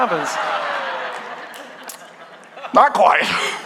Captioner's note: congregation laughing